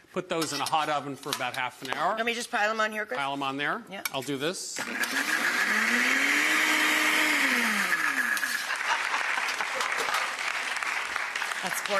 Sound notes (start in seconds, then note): 4.8 blender running; 8.3 hands clapping